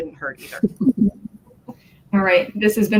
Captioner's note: laughter